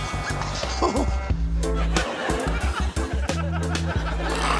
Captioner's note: laughs